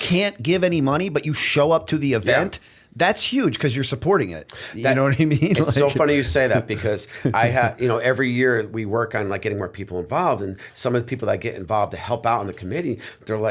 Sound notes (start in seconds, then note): 5.3 chuckle